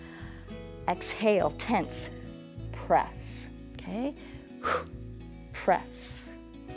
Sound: exhales

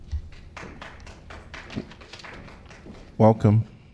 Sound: applause

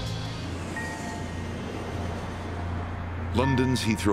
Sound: plane passing

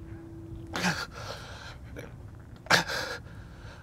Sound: Baba gasps

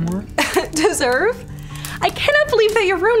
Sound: scoffs

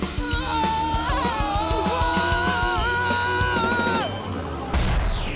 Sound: more screaming

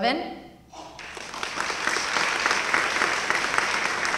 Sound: applause

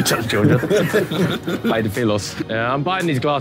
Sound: Simon laughing

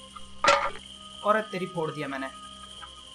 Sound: bucket falls

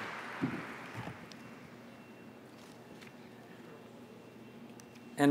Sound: applause

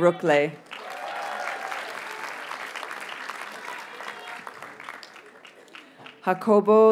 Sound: audience cheers and applauds

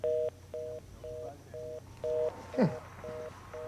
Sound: phone beeping

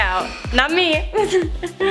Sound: laughs

